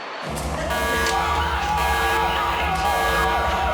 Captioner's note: screaming